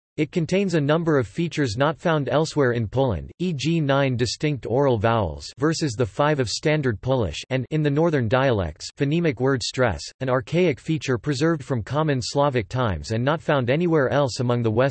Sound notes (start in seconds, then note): 7.6 in the northern dialects